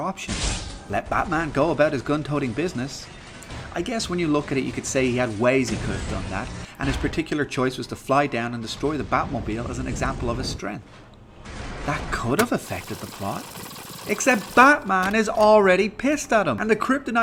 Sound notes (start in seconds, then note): 12.3 whirring